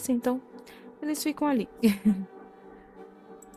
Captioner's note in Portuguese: risos